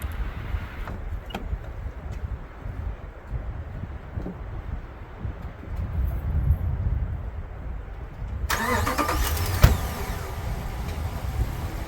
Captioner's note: wind howling